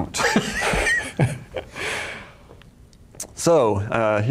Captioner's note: laughing